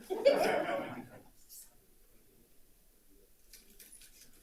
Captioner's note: group laughs